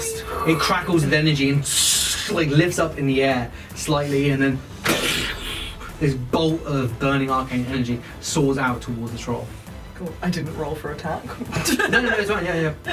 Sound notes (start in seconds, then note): 4.0 fwooshing sound